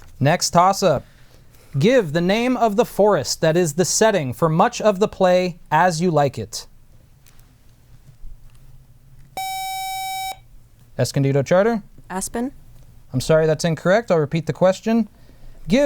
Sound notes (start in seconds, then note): 9.4 buzzer